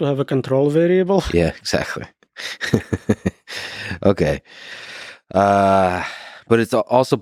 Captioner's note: Lex laughing